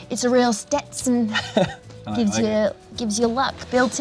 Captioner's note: laughs